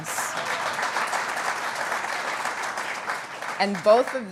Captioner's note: applause